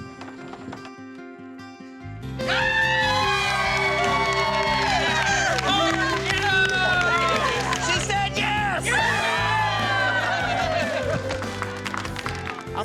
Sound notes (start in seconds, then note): 0.0 footsteps; 0.3 door opens; 2.4 everyone cheering, clapping; 8.9 everyone cheering